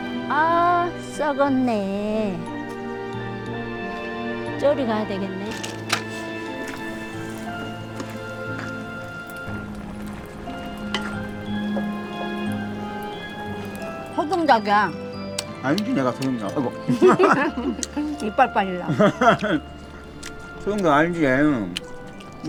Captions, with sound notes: Ah, it’s rotten. I guess I should go over there. This is native chicken. I know it’s native chicken. Oh my! [Both laughing] You’ll lose a tooth. Haha! I know native chicken!